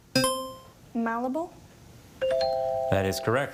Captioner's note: buzzer chimes; tone chimes